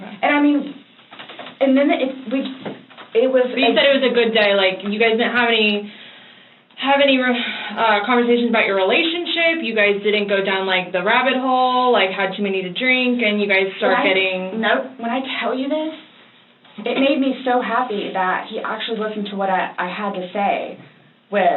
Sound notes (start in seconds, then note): 7.3 sighs